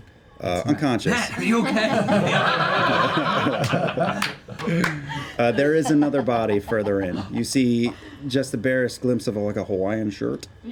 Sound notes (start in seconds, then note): 2.7 laughing